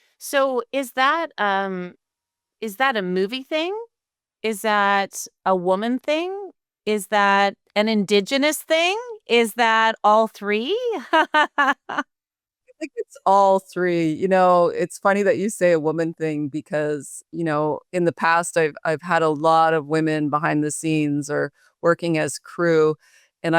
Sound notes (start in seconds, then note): 10.8 laughing